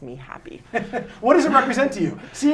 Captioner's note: laughs